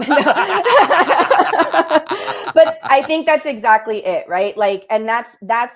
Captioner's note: laughter